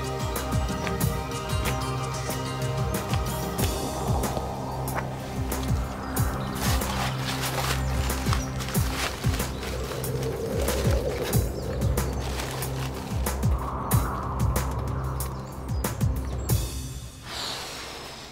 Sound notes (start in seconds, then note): 5.5 trash rustling; 11.3 wind rushing